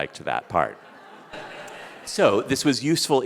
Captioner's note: audience laughing